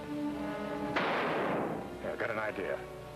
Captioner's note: gunshot bangs